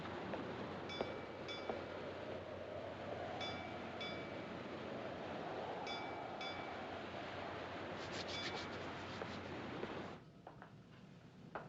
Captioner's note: bell Clanging